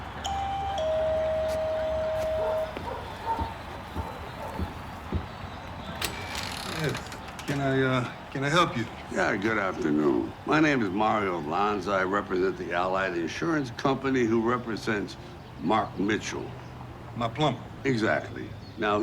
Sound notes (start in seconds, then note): 0.2 doorbell rings; 2.0 dog barking; 4.3 footsteps approaching; 6.1 door creaks